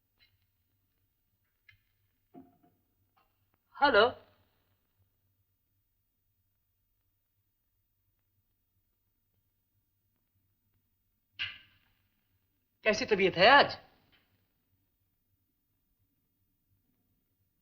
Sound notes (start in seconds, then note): none